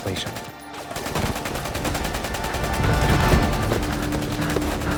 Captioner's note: machine gun firing; Ellis breathing heavily